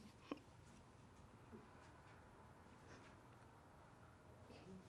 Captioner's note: crying